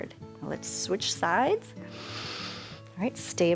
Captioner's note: inhales